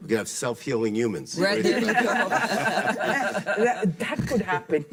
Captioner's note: panel laughing